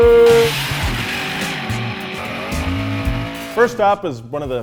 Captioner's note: car engines rev